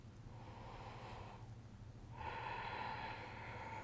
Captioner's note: breathing deeply